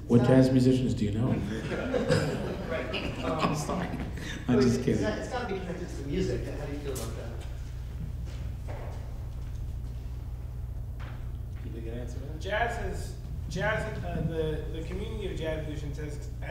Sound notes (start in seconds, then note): 1.4 audience laughing